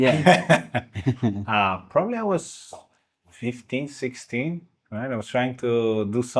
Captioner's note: laughing